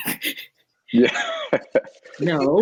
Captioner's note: laughs